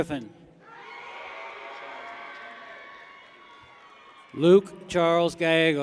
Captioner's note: people cheer